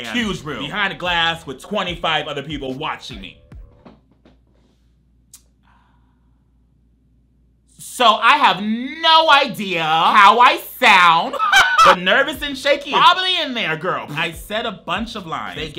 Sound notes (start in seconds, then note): 11.3 laughs